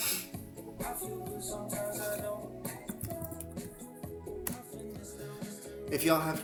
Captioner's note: snorts